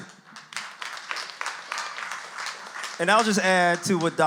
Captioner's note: audience applauds